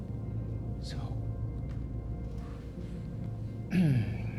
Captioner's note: clears throat